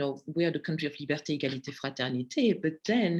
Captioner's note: speaking in foreign language